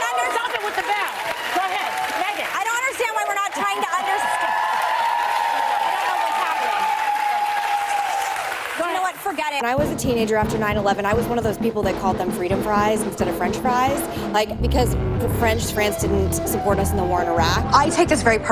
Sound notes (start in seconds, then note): 1.0 audience cheering; 4.8 audience cheers louder to drown her out